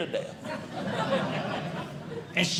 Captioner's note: audience Laughing